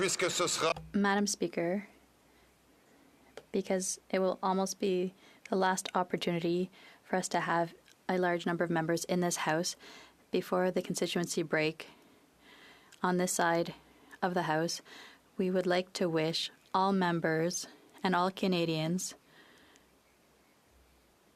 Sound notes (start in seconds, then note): 5.9 speaking French